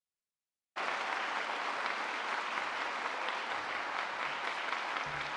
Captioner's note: cheering; clapping